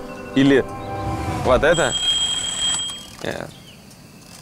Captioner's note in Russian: звонок будильника два